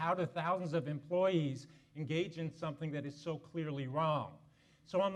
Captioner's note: none